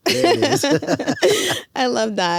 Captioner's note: both laughing